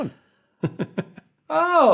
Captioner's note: giggles